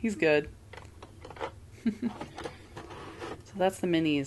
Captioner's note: Chuckle of Koboldian Delight